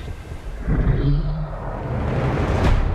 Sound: groans

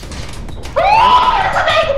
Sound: gutteral scream

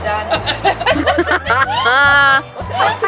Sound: all: laughs

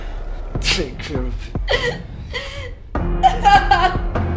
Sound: woman crying

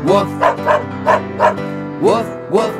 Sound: dog barking

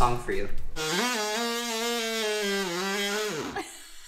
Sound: saw humming; laughing

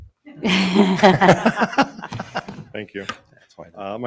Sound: group chuckles

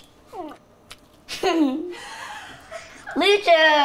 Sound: laughing

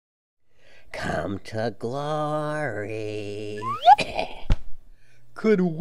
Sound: cough

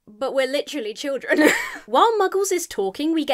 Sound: laughs

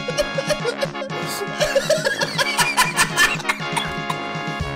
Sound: laughter

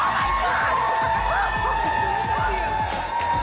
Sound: applause and cheering cont

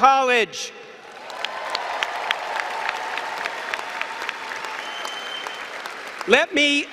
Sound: applause and cheering

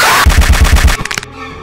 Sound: more punching

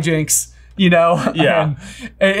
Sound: laughs

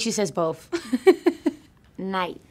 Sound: laughing

